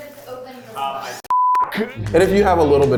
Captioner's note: beep